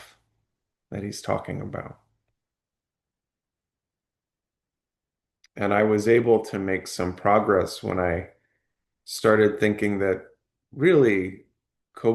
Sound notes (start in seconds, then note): 2.3 pause